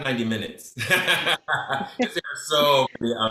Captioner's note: laughs